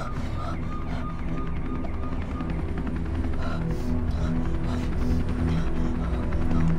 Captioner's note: sirens wail; somber instrumental music